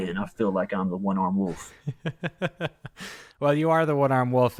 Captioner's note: laughs